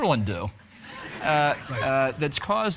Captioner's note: audience laughing